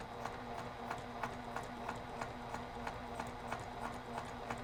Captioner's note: sewing machine humming